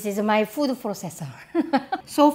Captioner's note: laughter